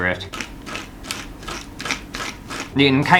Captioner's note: scratchy Sand Noises